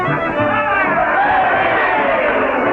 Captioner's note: cheering